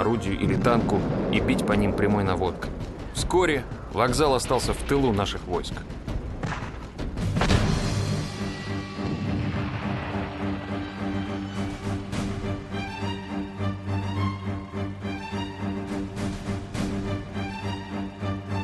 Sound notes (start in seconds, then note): 7.2 sounds of battle